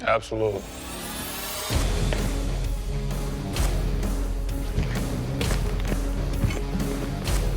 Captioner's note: blade impact sounds